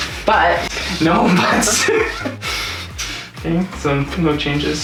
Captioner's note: laughing